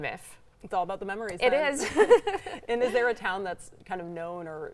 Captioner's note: laughs